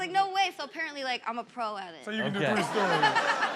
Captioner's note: audience laughs; laughs